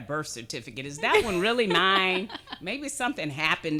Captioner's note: laughing